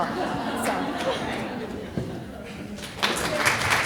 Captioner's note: people laughing; people applauding